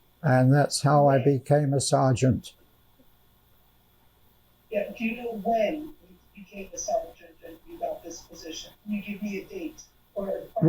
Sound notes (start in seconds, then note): none